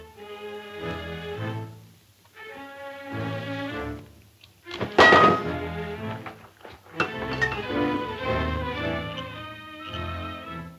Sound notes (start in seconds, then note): 4.8 metal clanging; 7.9 dramatic music